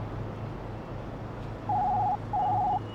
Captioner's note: phone ringing